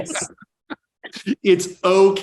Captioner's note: laughing